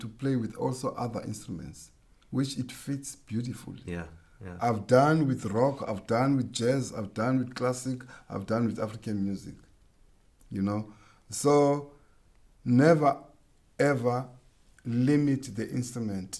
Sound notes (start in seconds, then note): none